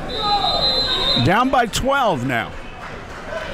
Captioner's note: whistle blows